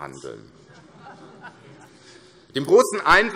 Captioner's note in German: Heiterkeit